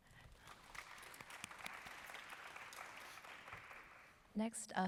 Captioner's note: applause